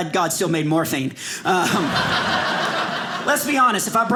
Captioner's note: audience laughing